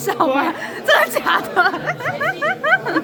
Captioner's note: laughed out